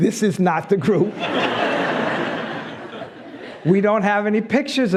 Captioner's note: laughs